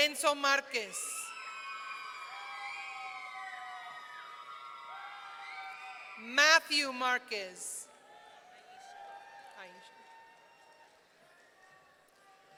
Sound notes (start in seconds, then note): 0.8 audience cheering; 8.4 audience cheering